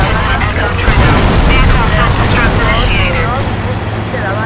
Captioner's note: sirens